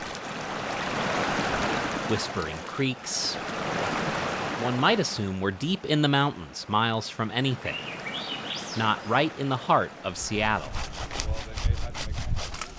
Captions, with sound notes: whispering creaks, (water rushing) one might assume, were deep in the mountains, miles from anything. (birds sing) Not right in the heart of Seattle. (sawing)